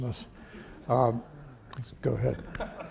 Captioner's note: audience laughing